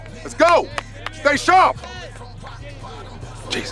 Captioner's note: Stan clapping